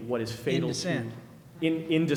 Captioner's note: voiceover